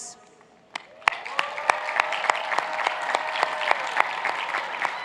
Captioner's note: cheers and applause